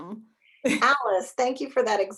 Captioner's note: chuckles